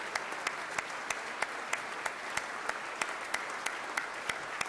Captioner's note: everyone clapping